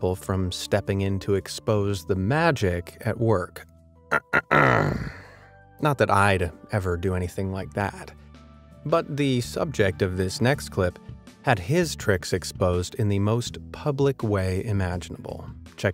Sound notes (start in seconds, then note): 4.1 clears throat